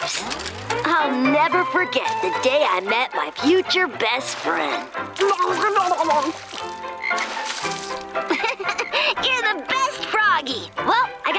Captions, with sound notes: I'll never forget the day I met my future best friend. [ribbiting] [laughing] You're the best froggy. Well, I gotta go.